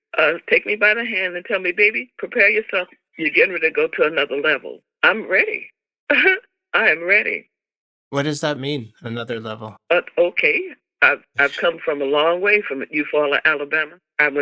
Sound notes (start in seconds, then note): 6.1 laughter